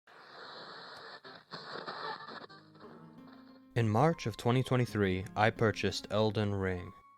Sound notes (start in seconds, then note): 0.1 radio Static